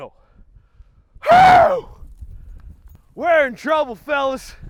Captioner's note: loudly grunts